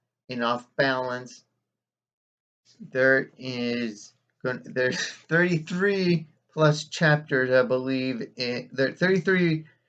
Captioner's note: chuckles